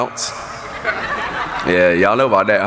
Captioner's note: laughing